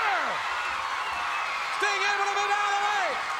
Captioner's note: crowd cheers loudly